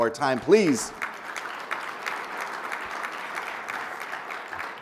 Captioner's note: people applauding